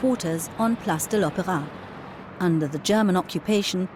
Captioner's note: speaking in German